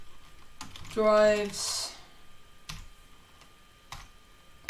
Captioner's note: typing